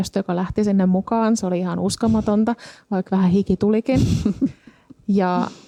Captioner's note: laughter